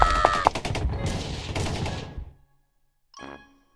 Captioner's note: more fire, distant explosions